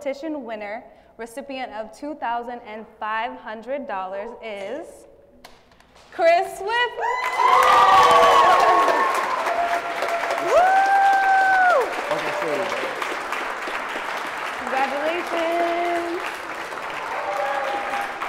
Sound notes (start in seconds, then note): 7.1 applause